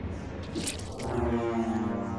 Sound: schloop

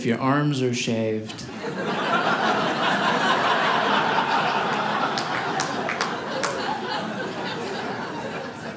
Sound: audience laughing

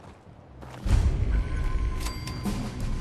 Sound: thumm; drumroll

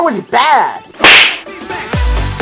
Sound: slap

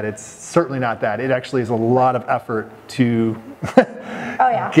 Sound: chuckles

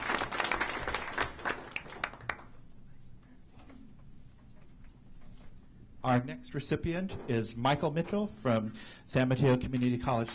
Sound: applause

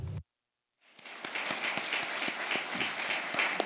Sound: applause

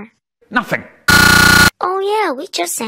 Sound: distorted stuttering

